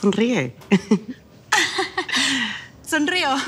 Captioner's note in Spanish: Risas